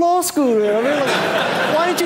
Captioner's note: audience laughing